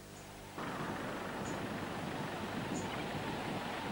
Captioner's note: wind blowing